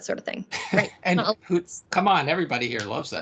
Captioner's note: laughing